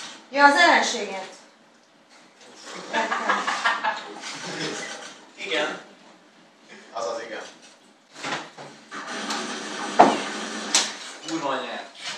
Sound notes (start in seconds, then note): 5.2 haha